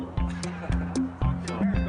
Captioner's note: laughs